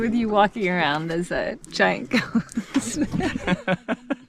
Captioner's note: chuckles; laughing